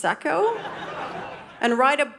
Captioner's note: audience laughing